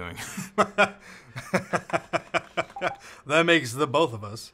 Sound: laughs

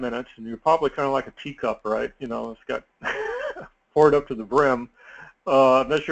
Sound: laugh

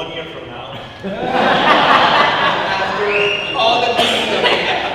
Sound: audience laughing

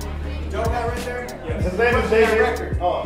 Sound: voiceover

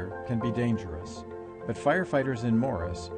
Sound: voiceover

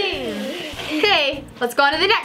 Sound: chuckles

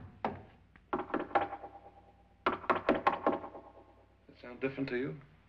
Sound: knocking; knocks echo

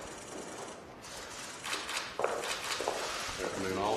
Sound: camera clicks

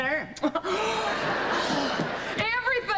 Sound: gasps

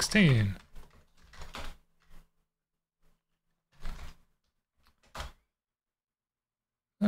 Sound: typing

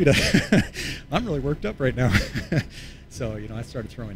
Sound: chuckles

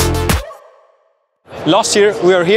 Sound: music stops

